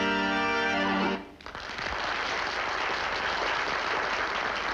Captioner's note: applause